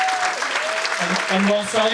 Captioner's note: audience applauding